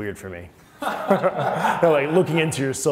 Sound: laughing

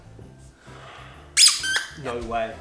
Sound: squeaks

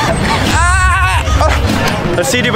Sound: screams

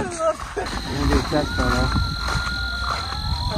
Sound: coyotes howling

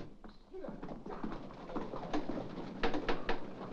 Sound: hooves trotting; rapping on door

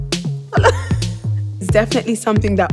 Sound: laughter

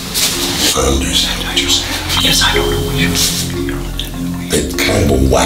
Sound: indistinct chatter

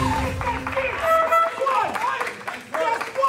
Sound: horn beeping; everyone applauding

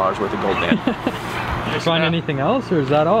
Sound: man laughs

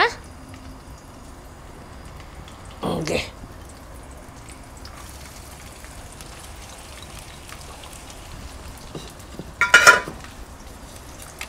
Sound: sauteing onions in hot oil

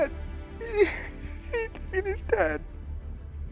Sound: sobbing

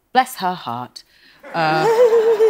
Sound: laughing

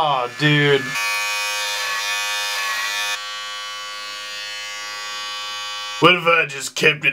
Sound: buzz

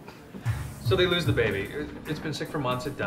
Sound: voiceover

